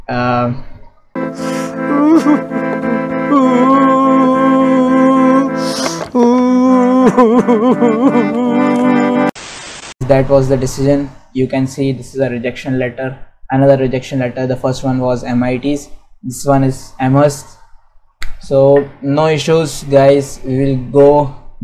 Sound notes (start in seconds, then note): 1.3 cry